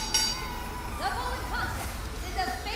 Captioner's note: bell ringing